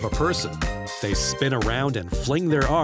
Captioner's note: none